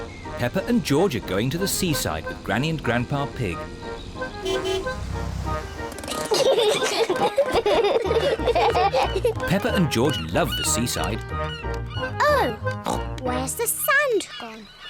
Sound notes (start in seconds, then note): 3.5 honks horn; 6.0 peppa and george giggle